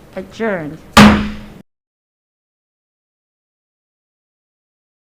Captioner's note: gavel slams